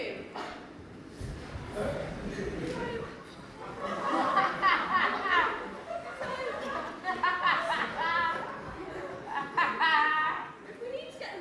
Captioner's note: audience laughter